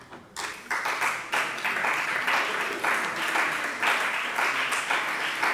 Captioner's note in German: Beifall bei dem BÜNDNIS 90/ DIE GRÜNEN und bei Abgeordneten der CDU